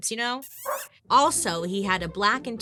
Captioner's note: lips smooching; dog barking